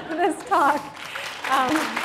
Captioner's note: applause; laughter